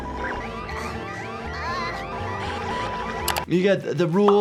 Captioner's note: alarm buzzing